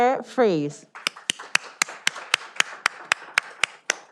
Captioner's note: all applauding